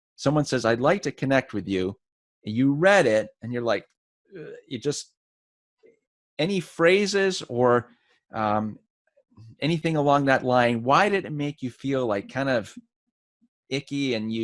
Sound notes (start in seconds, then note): 5.2 groans